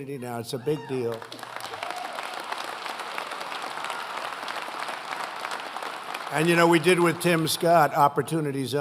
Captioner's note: applause